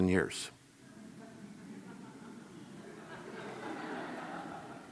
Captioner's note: audience laughs